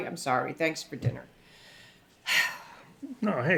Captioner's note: sighs